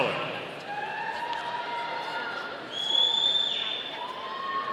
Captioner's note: audience cheering